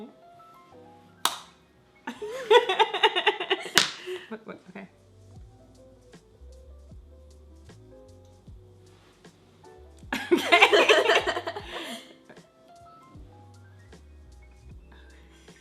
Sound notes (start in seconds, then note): 2.1 laughs; 6.1 soft electronic music; 10.2 laughs; 12.1 soft electronic music